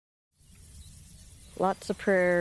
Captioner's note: birds chirping